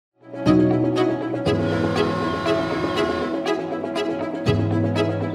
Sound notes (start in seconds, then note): 0.3 upbeat music; 1.5 horn blaring